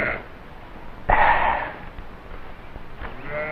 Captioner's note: sighs